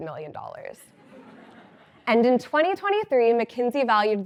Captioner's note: laugh